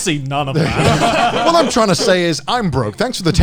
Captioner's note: all laughing